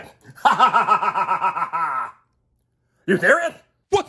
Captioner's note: laughing